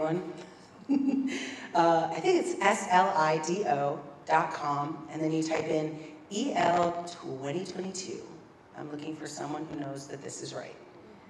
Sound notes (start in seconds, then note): 1.1 laugh